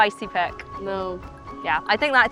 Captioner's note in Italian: scettico